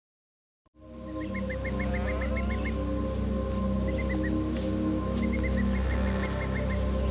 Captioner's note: gentle ominous music; bird chirping